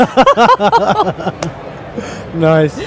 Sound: laugh; hands clap

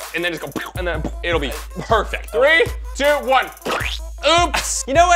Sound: splat

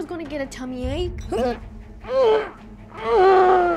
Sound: hurls

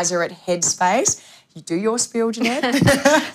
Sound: laugh

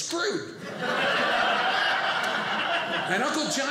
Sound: audience laughing

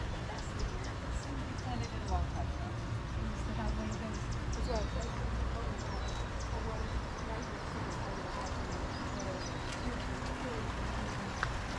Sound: birds chirping

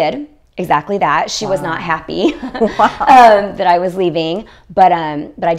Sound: laughs

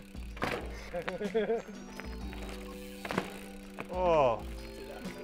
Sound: group laughing

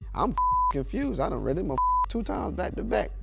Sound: beep

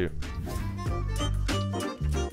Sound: air whooshing

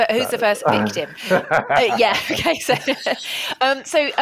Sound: laughter

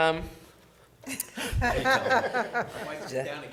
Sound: laughing

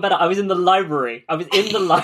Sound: laughing; laughs

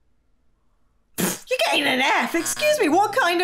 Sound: scoffs

